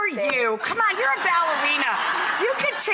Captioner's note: audience laughs